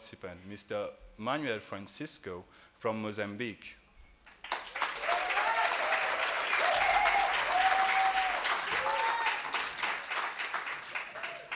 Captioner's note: applause